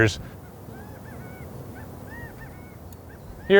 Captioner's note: quail chirping